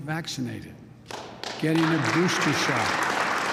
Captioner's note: applause